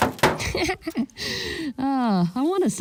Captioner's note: laughing